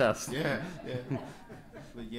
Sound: laughs

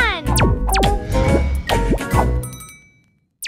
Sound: pew pew

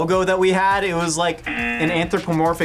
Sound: buzzer

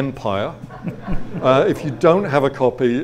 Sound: audience laughs

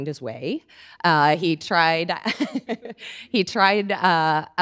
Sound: laughing

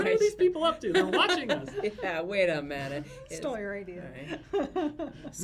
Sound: laughs

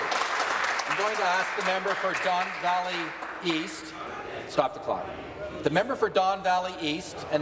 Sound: applause

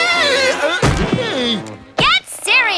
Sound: grunting

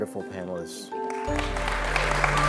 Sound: applause

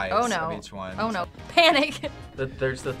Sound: laughs

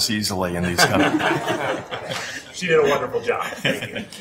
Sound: laughing

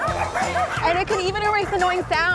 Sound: dogs barking

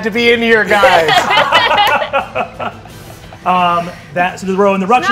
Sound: players laughing

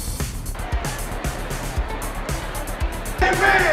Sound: laughs; crowd cheering

